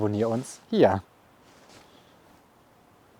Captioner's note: birdsong